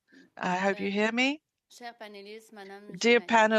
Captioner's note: speaking French